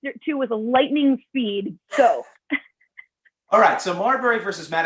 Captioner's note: laughter